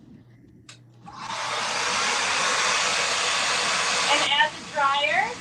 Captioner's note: blow dryer shooshing